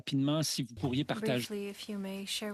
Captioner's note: speaking French